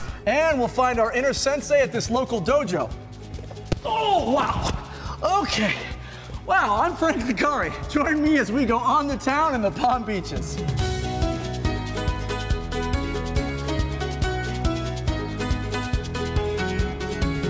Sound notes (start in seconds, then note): 3.7 thud; 15.1 upbeat music